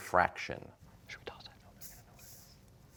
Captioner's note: whispering